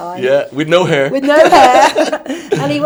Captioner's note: all laughing